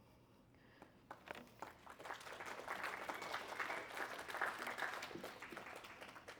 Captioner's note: applause